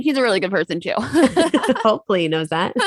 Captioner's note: both laugh